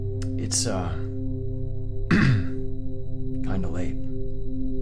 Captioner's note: clears throat